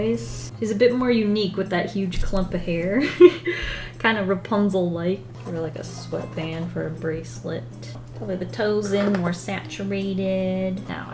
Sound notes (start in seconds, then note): 2.8 laughs